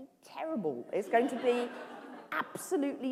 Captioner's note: laughter